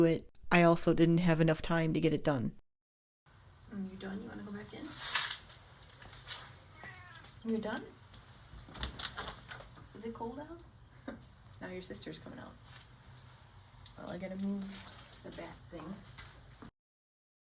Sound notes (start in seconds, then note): 6.6 meowing in background